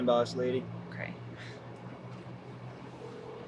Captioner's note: laughs